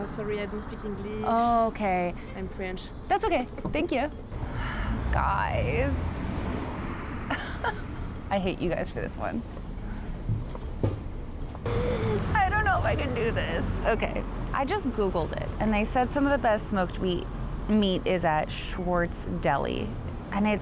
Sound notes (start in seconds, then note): 4.4 sighs; 7.3 laughs; 11.7 inhales